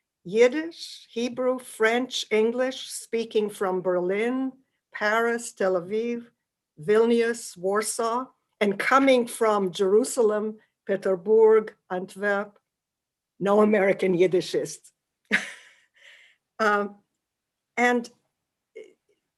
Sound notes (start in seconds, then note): 14.9 laughs